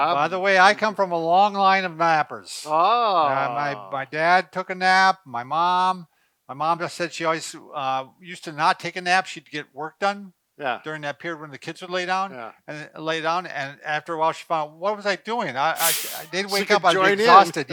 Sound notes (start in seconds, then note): 16.2 laughing